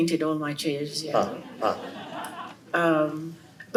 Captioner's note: laughter